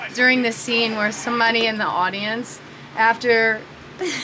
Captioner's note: laughing